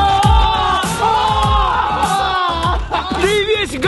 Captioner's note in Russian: угорают